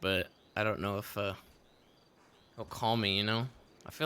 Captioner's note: cricket noises